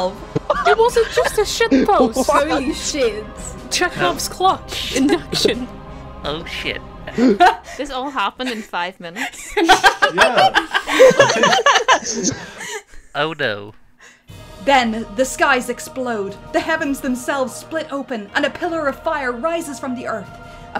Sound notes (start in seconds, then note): 0.4 laughter; 6.2 professor voice; 9.1 laughter